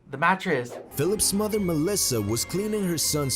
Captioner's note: voice-over